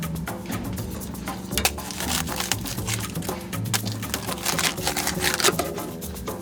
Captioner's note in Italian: Rumore di crosta che viene tagliata